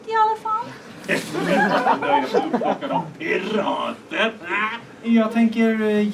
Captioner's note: laughter